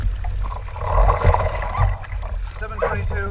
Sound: splashing

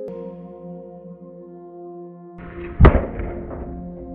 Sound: Lemonade Bomb is exploding in slow mo

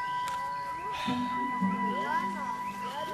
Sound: exhales

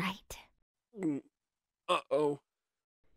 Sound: gulp

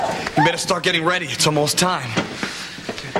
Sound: none

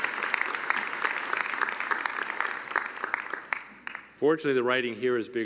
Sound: cheering and applause

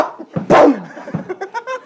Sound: bang

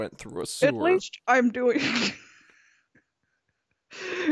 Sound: laughs

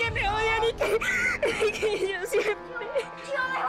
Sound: Sollozos

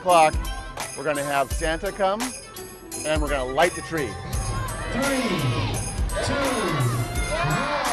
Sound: cheers

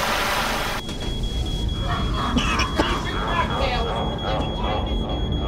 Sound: extinguisher hissing; fire alarm beeping

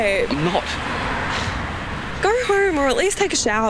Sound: sighs

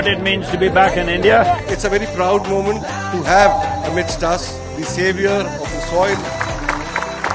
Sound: applause

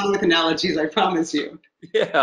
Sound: laughs

